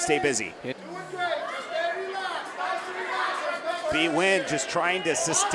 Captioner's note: audience cheering